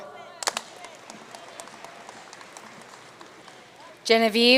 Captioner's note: audience cheering and applauding